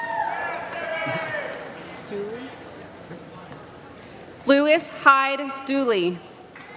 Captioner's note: applause